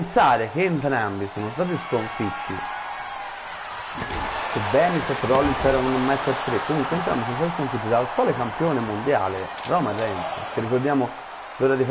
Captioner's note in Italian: Applauso